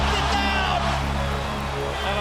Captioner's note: crowd cheering